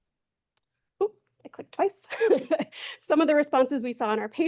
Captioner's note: laughs